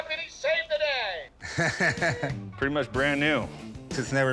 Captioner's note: chuckles